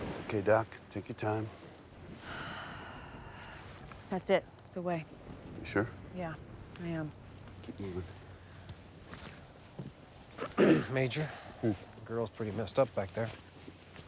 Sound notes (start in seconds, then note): 2.2 sigh; 8.7 footstep